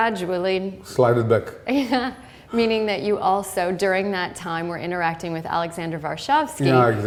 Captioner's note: chuckle